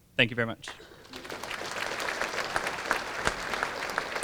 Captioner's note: applause